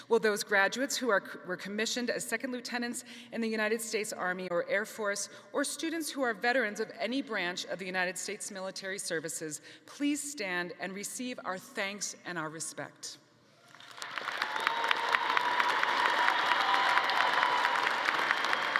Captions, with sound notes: Will those graduates who were commissioned as Second Lieutenants in the United States Army or Air Force, or students who are veterans of any branch of the United States military services please stand and receive our thanks and respect. (audience applauding)